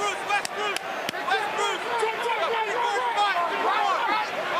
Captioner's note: shouting